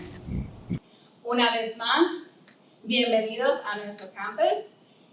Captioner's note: speaking in Spanish